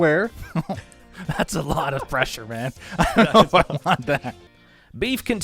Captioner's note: chuckles